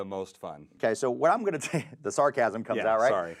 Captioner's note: chuckling